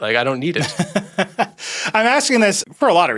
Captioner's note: laughs